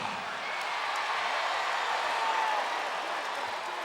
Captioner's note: crowd cheering